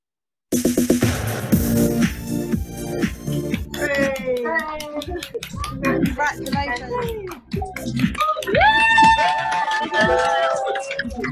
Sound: clapping and cheering

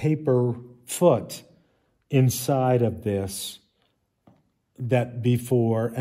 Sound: none

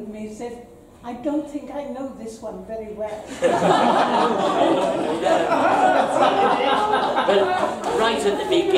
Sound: audience laughter

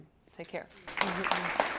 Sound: applause

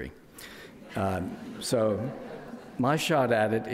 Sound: crowd laughs

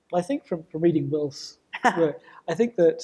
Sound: laughs

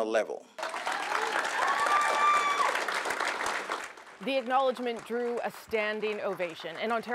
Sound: cheers and applause

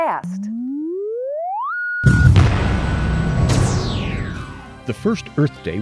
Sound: sound Effects

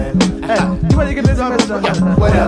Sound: audio warbles; chuckles

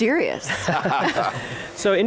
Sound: laughter

